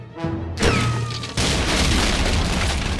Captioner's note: ricochet whistles; decks crashing